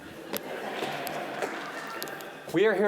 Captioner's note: audience laughing